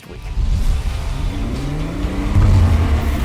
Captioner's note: engine revving